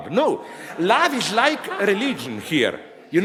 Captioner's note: audience laughs